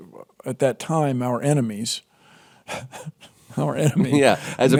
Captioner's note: laughs